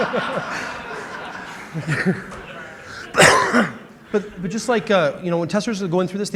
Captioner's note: laughter